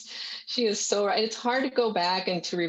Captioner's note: chuckles